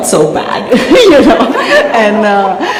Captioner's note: laughter